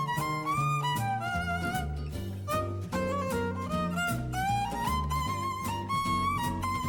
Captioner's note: none